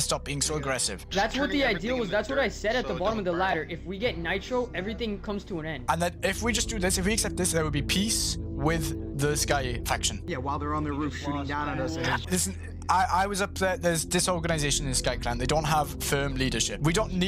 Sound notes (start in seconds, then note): 12.2 stutters